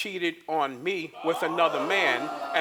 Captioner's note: audience groans